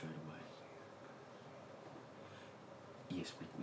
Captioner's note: mom whispers